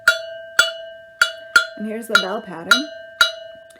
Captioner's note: metal bell